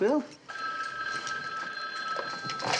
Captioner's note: phone ringing